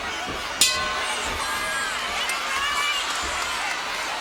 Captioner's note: bell rings